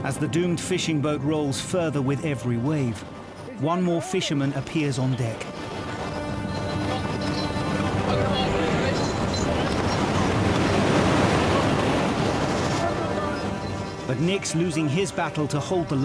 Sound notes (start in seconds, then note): 5.6 hooter honks; 8.6 water whooshing; 8.6 wind whooshing